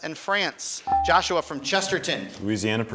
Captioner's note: buzzer chimes